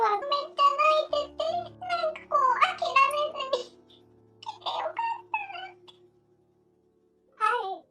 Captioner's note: tears